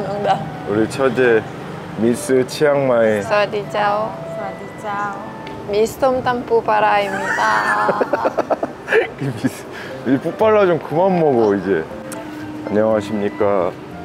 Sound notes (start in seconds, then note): 7.0 laughs